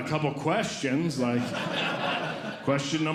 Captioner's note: audience Laughing